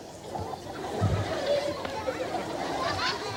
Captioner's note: audience laughing